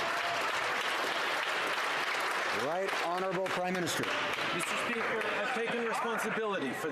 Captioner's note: some Applause